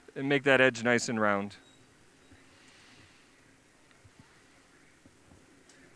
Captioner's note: silence